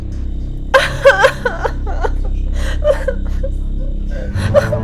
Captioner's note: cries